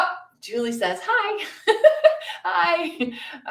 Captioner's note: laughs